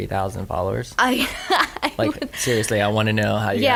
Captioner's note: laughs